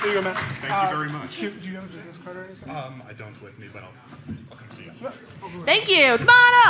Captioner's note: applause